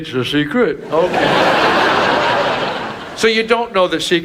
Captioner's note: audience laughs